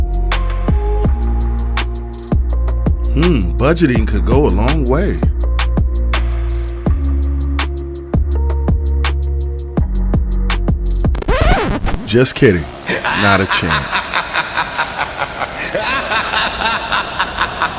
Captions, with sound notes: Hmm! Budgeting could go a long way. (upbeat music) (record scratching) Just kidding. Not a chance. (man laughing)